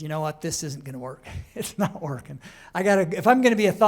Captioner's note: laughter